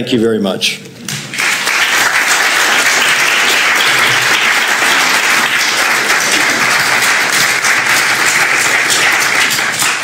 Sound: applause

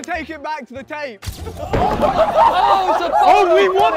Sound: board banging and contestants laughing

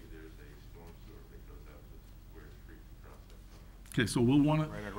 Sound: faintly speaking

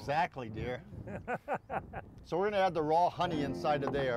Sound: man laughs

